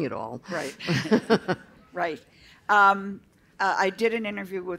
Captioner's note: laughter